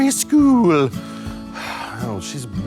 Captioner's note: Shawn sighs